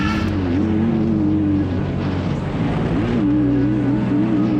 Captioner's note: engine whirring